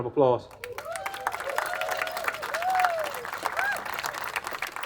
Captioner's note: attendees applauding